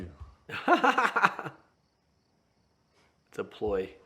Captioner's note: laughing